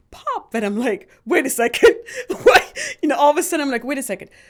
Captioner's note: laughs